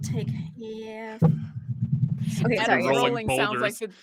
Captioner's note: microphone interference